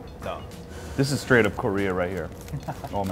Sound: laughs

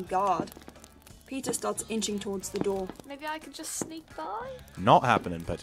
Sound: footsteps

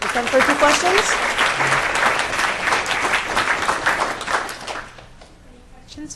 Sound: applause

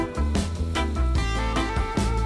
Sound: sizzling

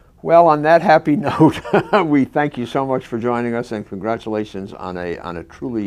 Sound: laugh

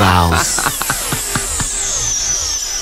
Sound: laughter

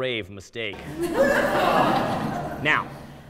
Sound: laughter and groans

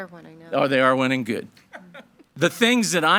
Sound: board member laughing

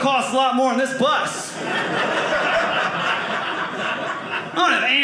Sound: audience laughing

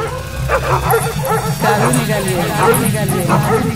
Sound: distinct voice murmuring

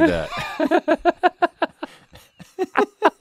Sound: laughing

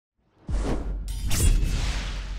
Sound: swoosh; sword slash

